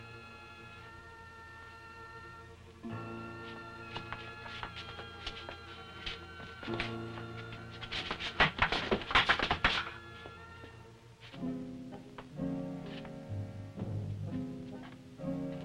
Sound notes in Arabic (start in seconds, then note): 8.4 صناديق قعقعة; 11.7 موسيقى متوترة